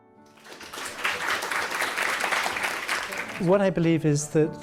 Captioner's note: audience applauding